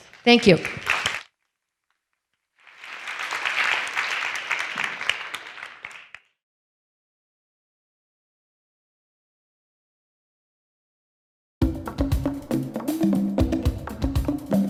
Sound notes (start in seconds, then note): 2.6 class applauds; 11.6 upbeat music